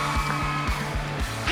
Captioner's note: cheering